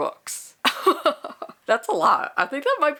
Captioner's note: laughs